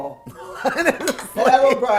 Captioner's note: woman laughing